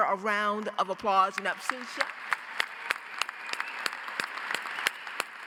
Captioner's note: audience applauds